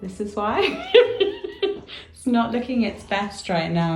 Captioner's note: laughs